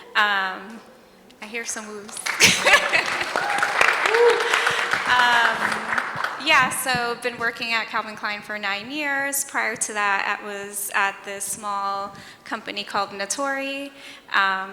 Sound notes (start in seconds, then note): 0.1 audience cheers; 2.1 audience applauds and whoops; 2.1 laughs